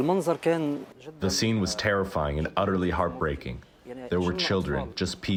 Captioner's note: through translator